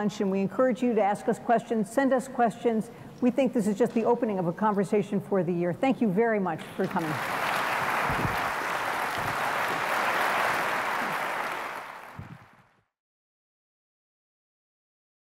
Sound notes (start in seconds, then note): 6.8 applause